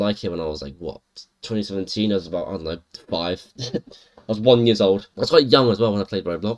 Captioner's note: chuckle